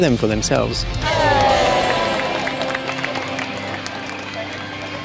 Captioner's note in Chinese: 歡呼和掌聲